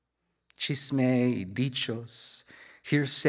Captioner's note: speaks in Spanish